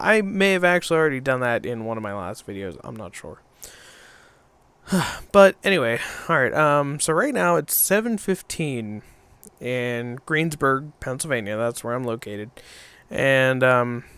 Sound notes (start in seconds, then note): 4.8 sigh